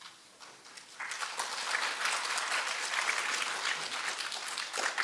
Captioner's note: applause